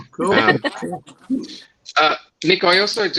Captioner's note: laughs